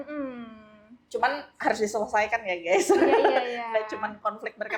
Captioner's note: laugh